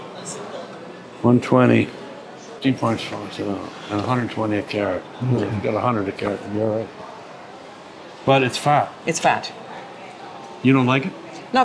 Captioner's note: mumbles math